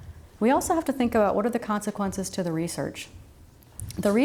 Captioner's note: none